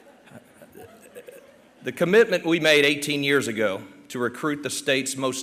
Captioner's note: laughter